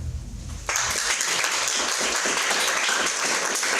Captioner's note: applauding